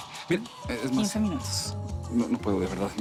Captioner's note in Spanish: Suena el celular